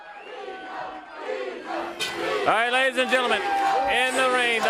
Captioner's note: crowd cheering